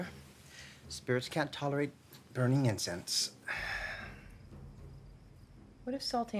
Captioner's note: sighs